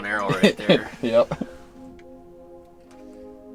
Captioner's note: laughs